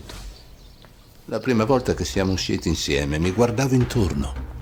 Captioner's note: voice-over